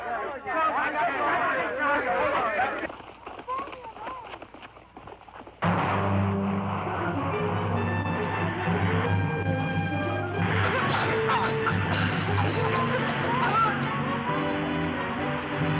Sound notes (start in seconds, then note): 4.9 tear gas gun fires; 6.9 menacing music; 10.5 women coughing